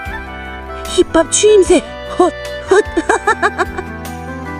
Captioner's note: laughs